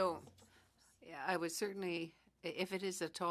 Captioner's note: speaking French